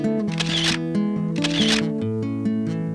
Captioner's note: camera shutter activates; calm music plays